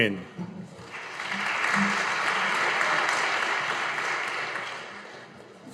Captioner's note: audience applauding